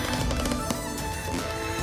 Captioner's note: footsteps creaking